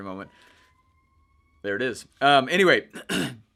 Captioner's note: siren blaring